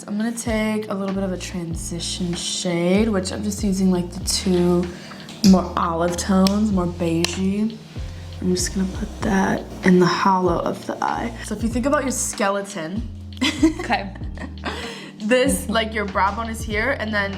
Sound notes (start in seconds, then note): 13.4 laughs